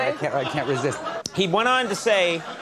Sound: audience laughs

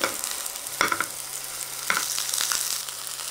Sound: sizzling

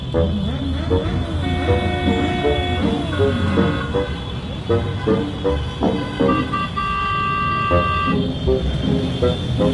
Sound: engines and beeping horns

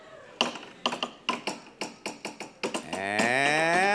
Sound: plinko card rattling

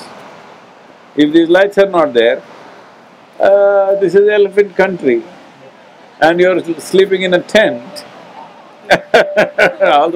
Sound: laughter

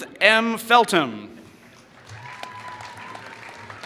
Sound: applause

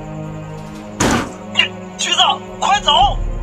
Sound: strong collision sound

